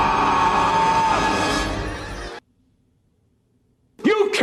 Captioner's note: birds fly away